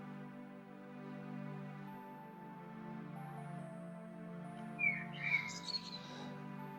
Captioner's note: birds chirping